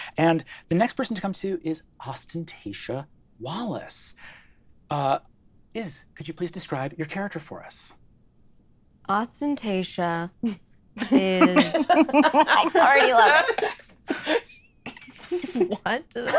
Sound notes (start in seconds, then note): 11.0 laughing